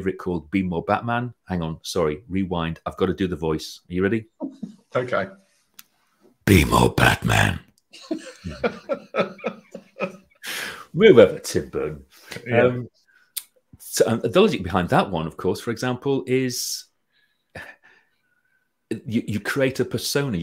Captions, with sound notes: called Be More Batman. Hang on, sorry, rewind. I've got to do the voice. Are you ready? - Okay. - Be More Batman. (laughing) - We're over Tim Burton. The logic behind that one, of course, for example, is you create a persona,